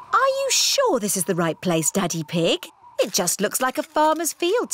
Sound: none

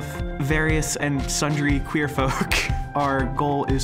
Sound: laughing

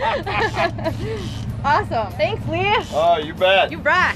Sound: laughs

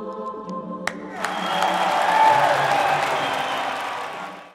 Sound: cheering

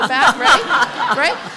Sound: laughter

